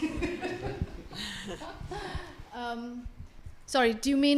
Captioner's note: audience laughing